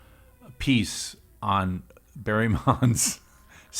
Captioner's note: laughs